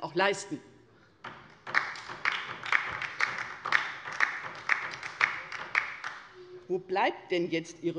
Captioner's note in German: Beifall bei der LINKEN